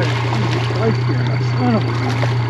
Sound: fish splashing

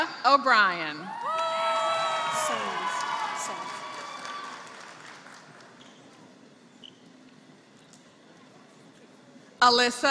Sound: applause

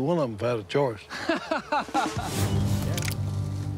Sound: laughs

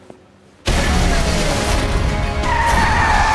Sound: rumbling, cars screeching

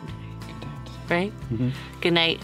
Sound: whispering

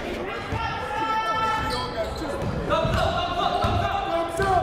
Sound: shouting

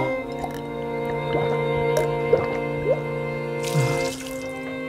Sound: gulping

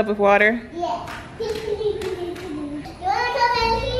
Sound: laughing

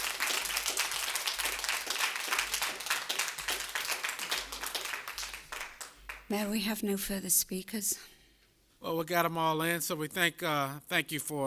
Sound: applause

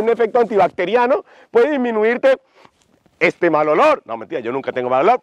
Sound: sniff

